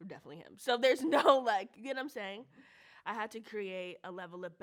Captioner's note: chuckles